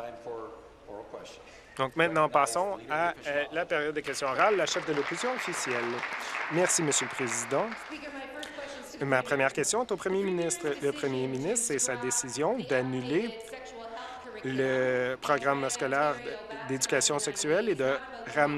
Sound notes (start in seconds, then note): 9.8 applause